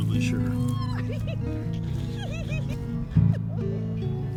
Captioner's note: Eve squeals